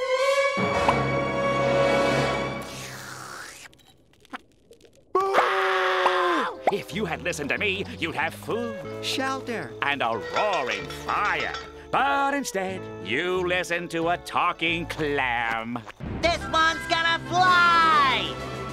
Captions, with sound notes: [sipping] [screaming] If you had listened to me, you'd have food, shelter, and a roaring fire. But instead, you listened to a talking clam. This one's gonna fly!